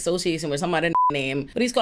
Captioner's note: beep